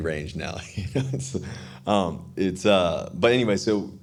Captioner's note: Russell laughing